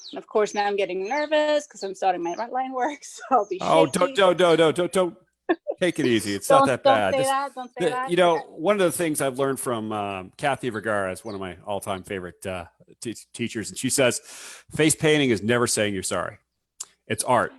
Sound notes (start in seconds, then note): 5.4 laughs